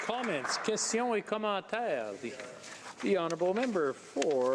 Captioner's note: applause